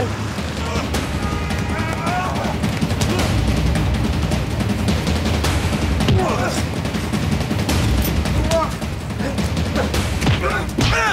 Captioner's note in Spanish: Exclamaciones